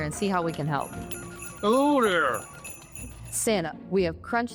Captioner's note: office phones ringing